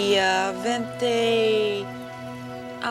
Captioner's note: speaking italian